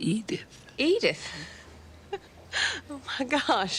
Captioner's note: laughs